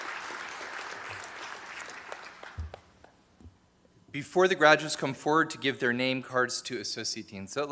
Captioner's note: applause